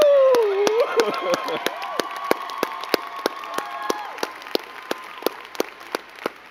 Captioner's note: crowd cheering and clapping